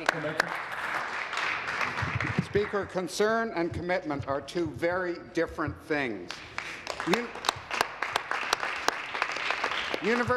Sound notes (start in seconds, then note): 3.6 applause